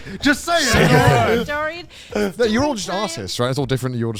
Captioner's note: hosts laugh